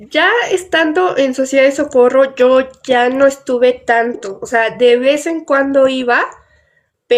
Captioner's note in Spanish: none